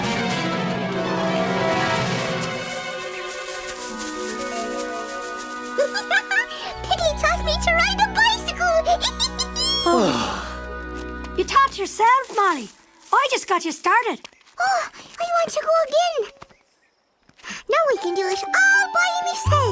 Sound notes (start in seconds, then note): 5.8 giggling; 9.2 giggles; 9.8 sighs of relief